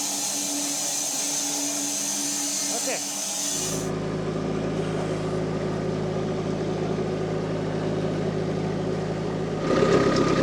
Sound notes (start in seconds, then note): 4.4 forklift rumbling